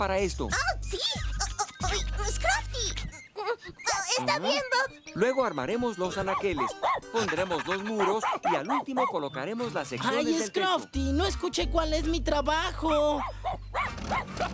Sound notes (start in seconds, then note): 6.2 barking & Panting